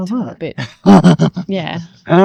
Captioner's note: laughing